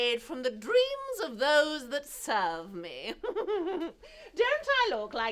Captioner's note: chuckling